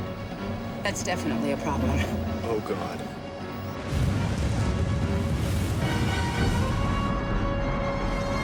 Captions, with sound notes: That's definitely a problem. - Oh, god. (thunder rumbles)